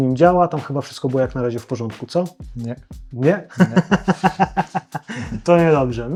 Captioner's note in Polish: śmiech